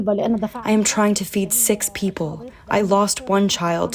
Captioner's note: through translator